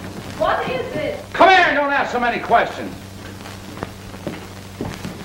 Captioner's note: shouting